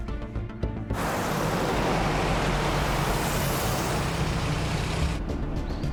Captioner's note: car sounds